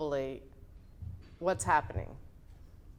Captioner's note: none